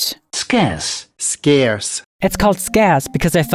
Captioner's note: automated Voice